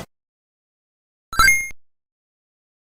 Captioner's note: Sonic Pocket Adventure ring sound effect